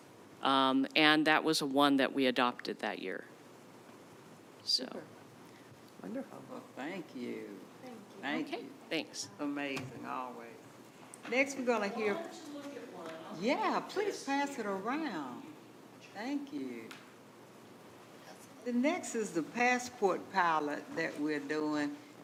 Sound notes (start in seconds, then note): 14.5 speaking quietly